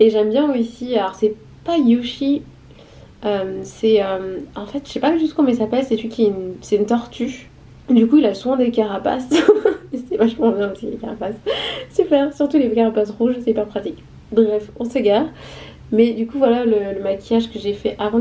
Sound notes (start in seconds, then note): 9.3 laughs